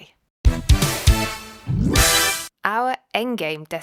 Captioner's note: bootup sound